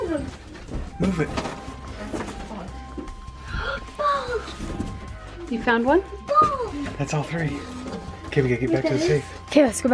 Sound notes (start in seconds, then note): 3.5 gasps